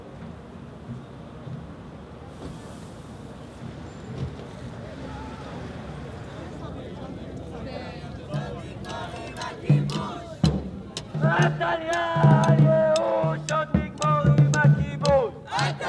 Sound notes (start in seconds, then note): 5.7 all chattering; 11.5 speaking foreign language